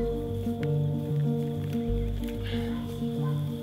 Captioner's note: insects chirping